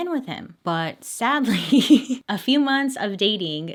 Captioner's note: laughs